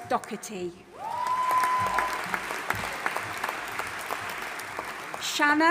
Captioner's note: audience applauding and cheering